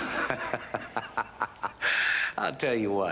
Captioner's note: laughing